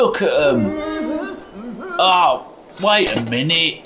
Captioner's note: clanking and shouting